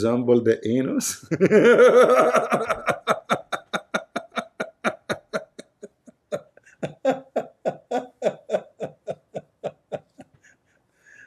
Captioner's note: Ketawa